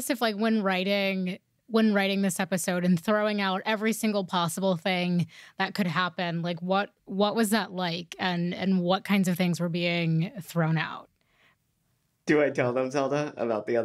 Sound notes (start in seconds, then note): none